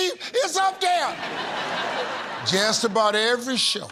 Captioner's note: laughter